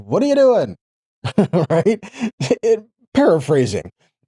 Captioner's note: laughing